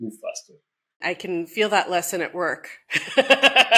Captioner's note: laughs